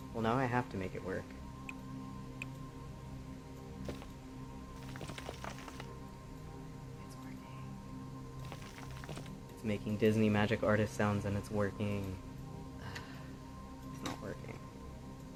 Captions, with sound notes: Well now I have to make it work. (whispers) it's workiiiing It's making Disney Magic Artist sounds and it's working. Ugh........ it's not working.